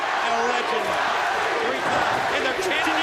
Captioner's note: crowd cheering